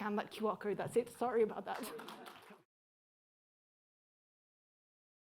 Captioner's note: audience applauding